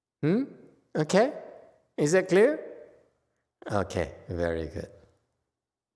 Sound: none

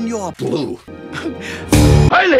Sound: chuckle

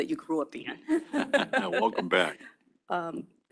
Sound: chuckles

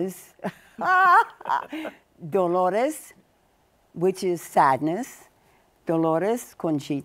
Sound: laughs

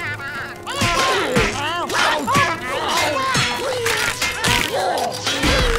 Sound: groaning

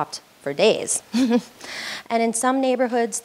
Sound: laughs

